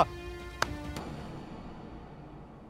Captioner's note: Snapping